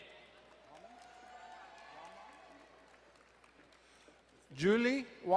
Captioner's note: crowd cheering and applauding